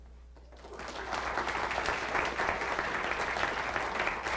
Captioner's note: applause